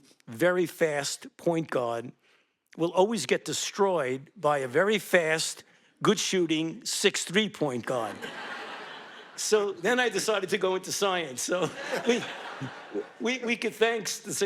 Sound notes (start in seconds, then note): 8.0 audience laughing